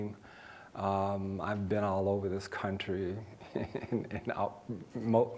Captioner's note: laughing